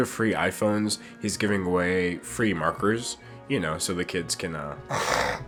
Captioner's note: snort